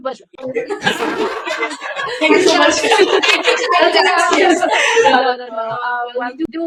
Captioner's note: laughter